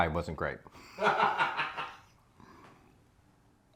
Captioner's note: laughing